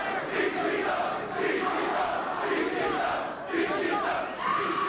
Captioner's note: spectators chanting "ECW!"